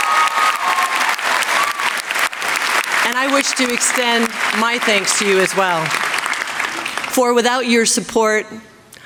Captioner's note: applause